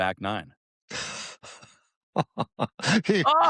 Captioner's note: laughter